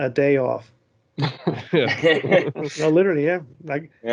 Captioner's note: laughter